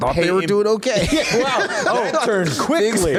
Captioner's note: laughter